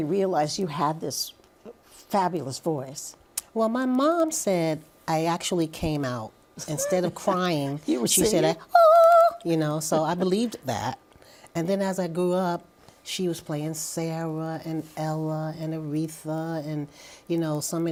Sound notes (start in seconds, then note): 8.1 vocalizes